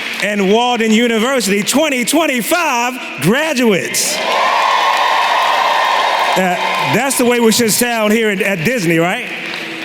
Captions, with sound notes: And Walden University 2025 graduates! [applause] That’s the way we should sound here at Disney, right?